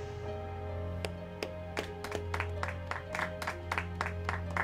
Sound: faint applause

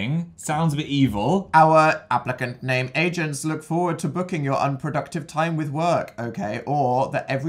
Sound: robotic voice

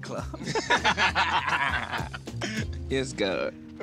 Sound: both laughing

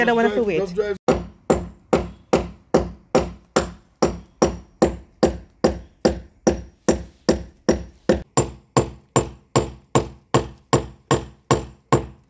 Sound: hammering in nail

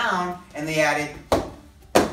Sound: foot stomping

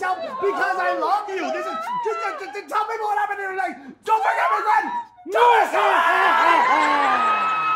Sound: screams; Gwen screams

